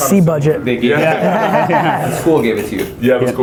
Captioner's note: group laughing